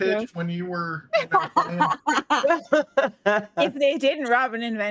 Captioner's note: laugh